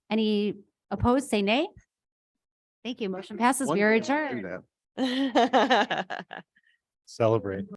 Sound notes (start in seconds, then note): 5.0 member laughing